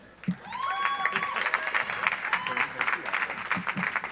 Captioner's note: audience applauds